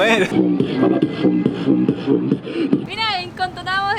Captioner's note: bowwawbowwawbowwaw